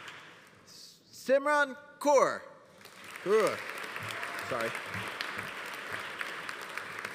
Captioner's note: audience applauding